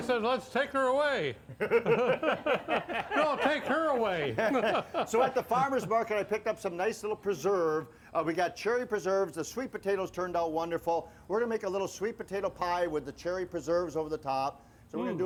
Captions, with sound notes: - Oh, I said let's take her away. (laughing) No, take her away. - So at the farmers' market I picked up some nice little preserve. We got cherry preserves, the sweet potatoes turned out wonderful. We're gonna make a little sweet potato pie with the cherry preserves over the top.